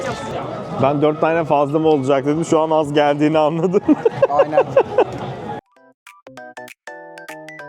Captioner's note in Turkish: kahkaha